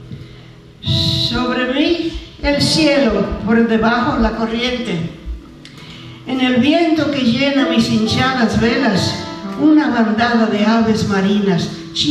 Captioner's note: speaking spanish